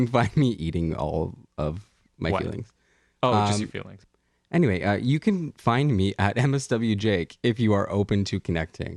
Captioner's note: laugh